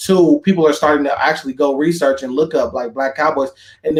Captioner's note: none